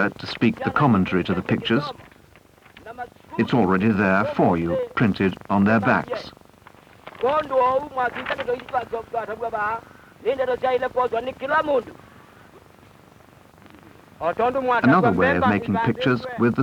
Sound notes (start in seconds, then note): 6.6 paper rustle; 6.8 non-English speech; 11.7 non-English speech